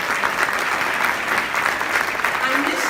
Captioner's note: applause